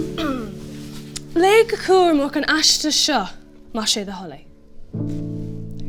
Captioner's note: in irish